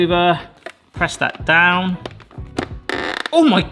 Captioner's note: lid taps; lid creaks